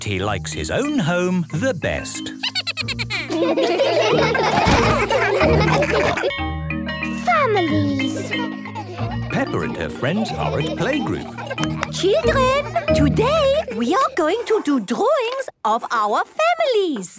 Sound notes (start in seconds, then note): 2.4 Steven giggles; 4.2 all laughing; 6.2 school bell ringing; 11.6 clapping